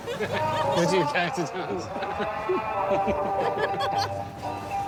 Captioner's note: people laughing